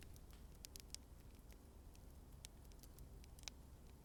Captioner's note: flames crackling